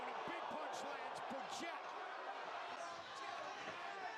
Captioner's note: cheer